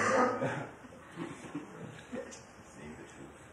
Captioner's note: laughter